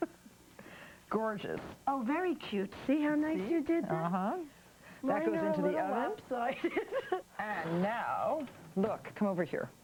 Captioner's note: laughter